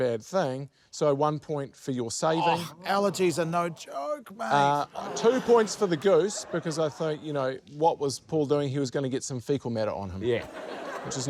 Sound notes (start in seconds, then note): 4.9 laughter